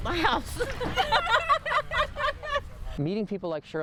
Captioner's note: laughing